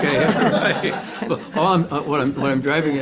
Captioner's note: everyone laughing